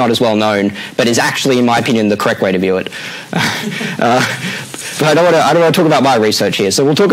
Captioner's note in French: rires